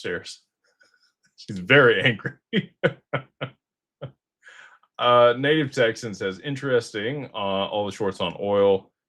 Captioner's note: laughter